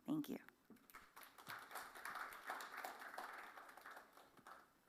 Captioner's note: applause